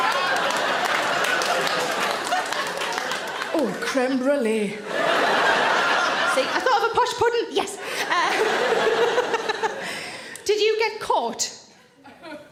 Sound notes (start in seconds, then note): 0.0 audience applaud; 4.8 audience laughs; 7.8 Sarah laughs